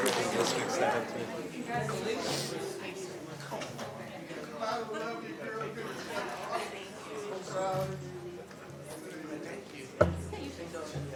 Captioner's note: applause